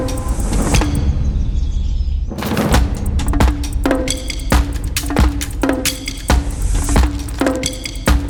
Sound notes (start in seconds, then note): 1.5 birds chirping